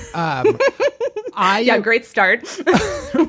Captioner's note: laughs